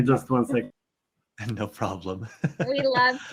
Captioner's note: chuckles